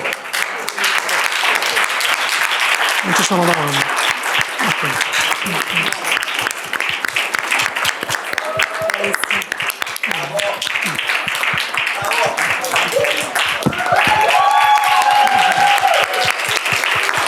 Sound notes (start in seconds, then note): 0.2 applause; 3.2 speaking italian; 13.7 crowd cheering